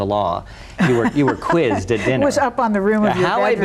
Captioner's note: laughs